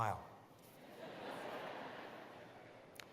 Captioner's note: laughter